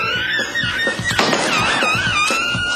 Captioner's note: gunshot